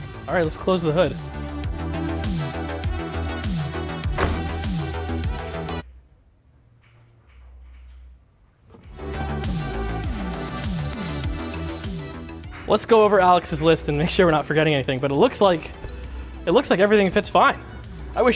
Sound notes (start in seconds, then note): 2.1 upbeat music; 4.1 car hood closes; 9.1 upbeat music